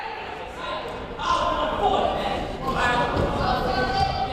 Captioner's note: crowd murmuring